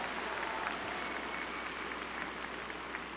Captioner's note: applause